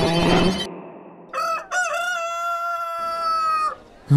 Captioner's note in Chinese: 老母鷄叫聲